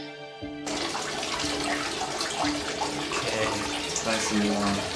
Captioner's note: water gushing